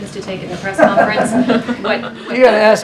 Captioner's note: laughter